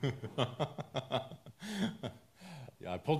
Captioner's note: laughs